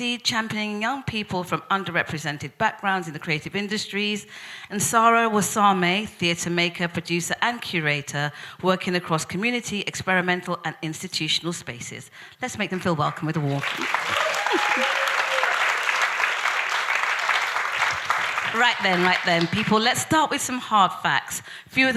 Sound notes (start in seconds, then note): 15.3 audience applauding; 15.3 audience cheering